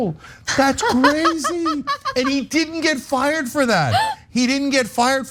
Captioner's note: laugh